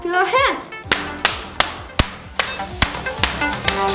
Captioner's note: clapping; techno music